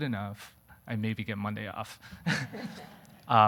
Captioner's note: audience laughing